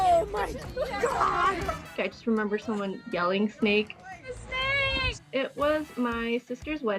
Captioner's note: laughter